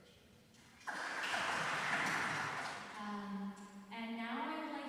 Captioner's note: applause